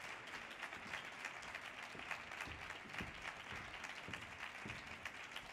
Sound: audience applause continues

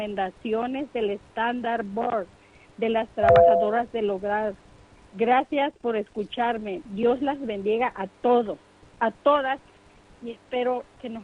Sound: speaking in foreign language

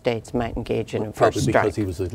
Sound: laughing

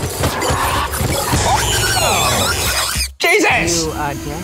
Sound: Murder Monkey screeching

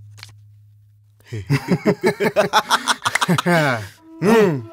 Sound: laughs

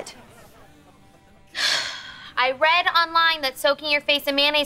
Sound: sighs

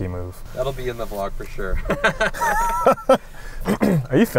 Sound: laughing

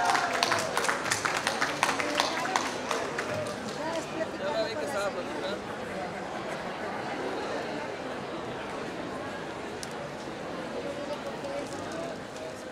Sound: applause

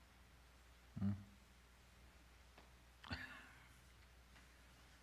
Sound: laughs

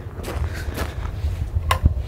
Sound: gravel rustling; light switch clicks

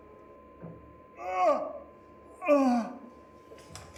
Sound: Pal Ivanych moans in pain

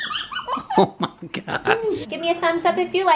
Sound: laughs

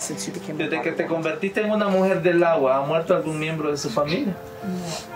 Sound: speaking foreign language

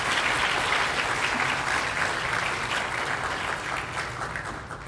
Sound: applause

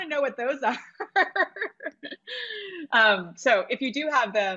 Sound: laughs

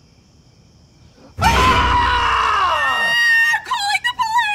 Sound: screaming

